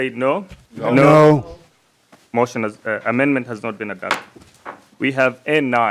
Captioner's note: chorus of ayes